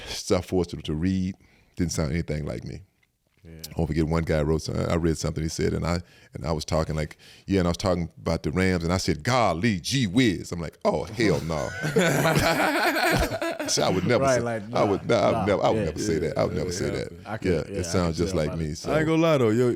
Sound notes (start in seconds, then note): 11.4 all laugh